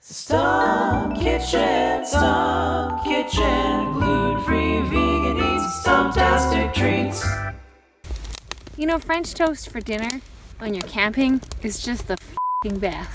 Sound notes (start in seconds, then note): 7.6 fire crackling